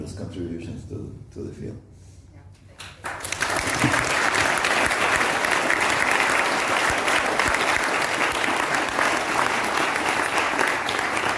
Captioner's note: applause